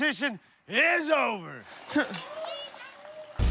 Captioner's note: laughs